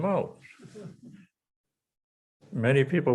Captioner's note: audience chuckles